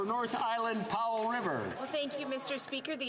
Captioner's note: speaking French